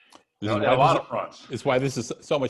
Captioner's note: chattering